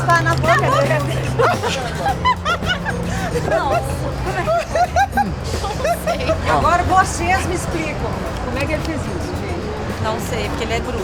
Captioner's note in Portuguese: risos e espanto